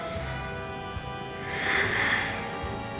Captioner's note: sighs